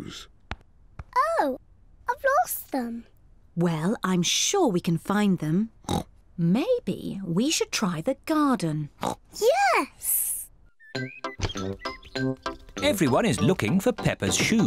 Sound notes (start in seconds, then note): 5.8 oinks; 9.0 oinks